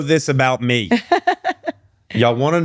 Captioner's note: laughing